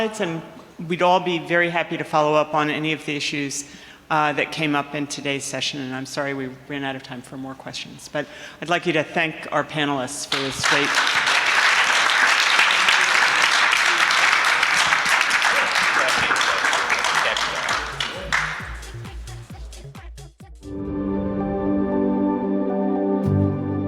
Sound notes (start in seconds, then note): 11.1 audience clapping; 18.8 lively music; 20.4 light airy music